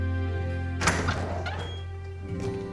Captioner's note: door opens